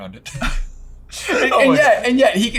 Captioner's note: chuckling